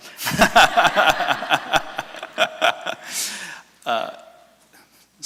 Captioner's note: laughter from audience